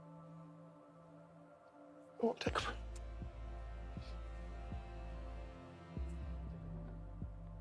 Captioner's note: potlačuje pláč